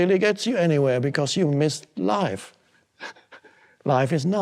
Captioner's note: chuckles